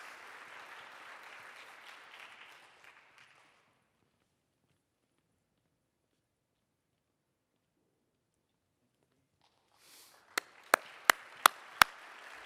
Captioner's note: applause